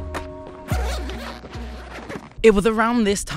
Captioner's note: bag unzips